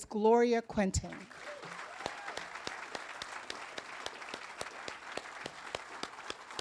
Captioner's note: audience applauding and cheering